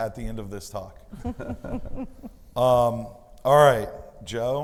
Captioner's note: both laughing